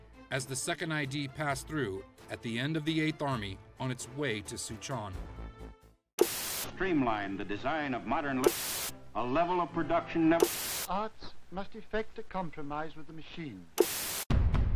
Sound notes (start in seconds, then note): 8.4 static buzzing; 14.5 dramatic music